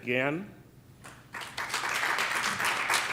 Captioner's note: applause